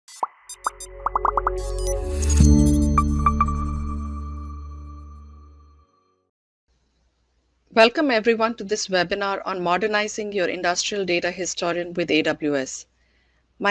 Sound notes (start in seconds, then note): 0.2 animations popping and whirring; 2.2 soft music